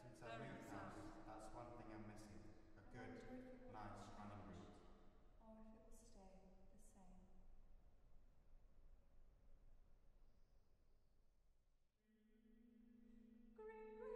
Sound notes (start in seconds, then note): 3.9 soprano, spoken